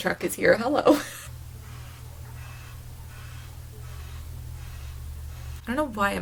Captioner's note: truck making annoying noises lol